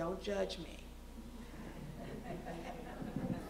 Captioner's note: laughter